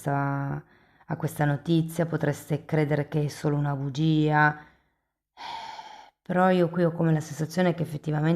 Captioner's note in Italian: sospiri